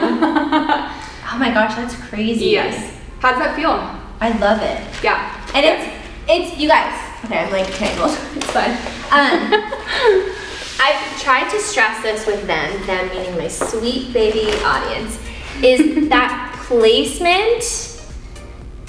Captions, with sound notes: (Laughing) Oh my gosh. That's crazy. - Yes. How does that feel? - I love it. - Yeah. And it's it's you guys, okay I'm like tangled, it's fine. (giggling) I've tried to stress this with them... Them meaning my sweet baby audience. Is that placement